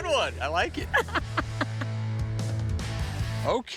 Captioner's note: laughs